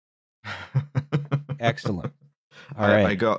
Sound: chuckles

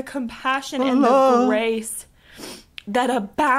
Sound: sniffs

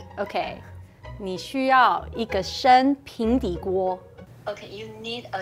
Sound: speaking in mandarin

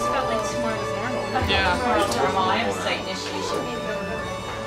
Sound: colleagues chatting

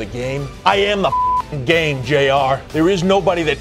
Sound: beep

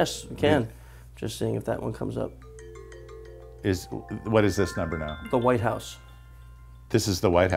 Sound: ringing

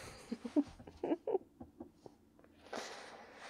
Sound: surprise hug attack and giggles

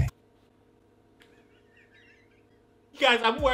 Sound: laughing

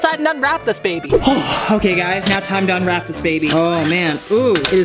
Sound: sighs heavily

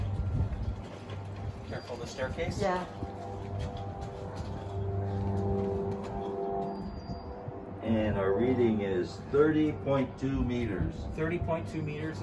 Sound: plane sound

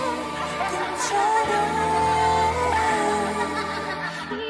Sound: laughing

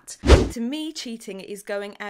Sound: air whooshing

